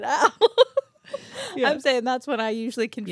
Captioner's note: laughing